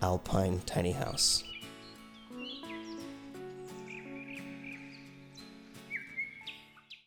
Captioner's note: gentle music; bird chirping